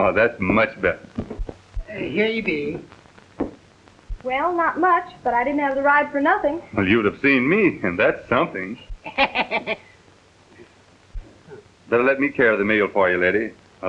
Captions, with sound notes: Oh, that's much better. Ah, here you be. Well, not much, but I didn't have the ride for nothing. Well, you'd have seen me, and that's something. (laughter) Better let me carry the mail for you, Letty.